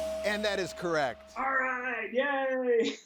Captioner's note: chuckles